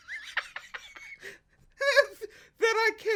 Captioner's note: laughs